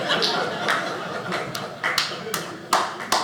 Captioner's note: audience laughing